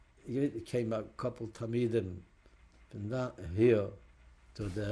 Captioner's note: non-english